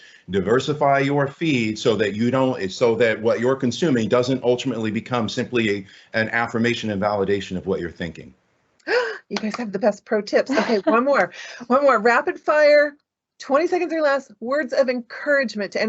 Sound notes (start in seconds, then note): 9.3 clapping; 10.4 chuckling